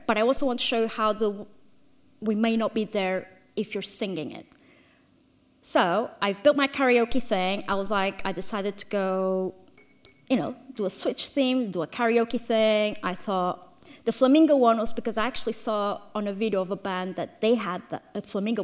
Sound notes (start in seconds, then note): none